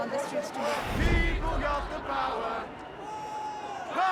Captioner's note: crowd